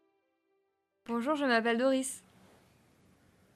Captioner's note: speaks French